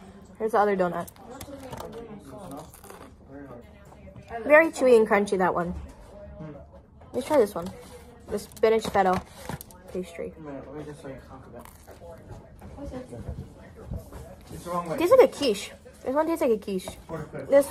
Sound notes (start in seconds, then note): 2.5 crunch x2; 11.4 softie crunch